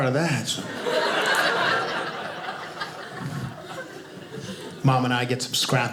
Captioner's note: audience laughing